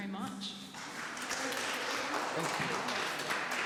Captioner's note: clapping